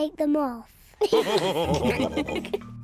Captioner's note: all laugh